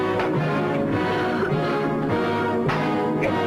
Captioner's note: coughing